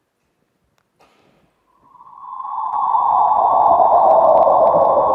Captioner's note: black hole sound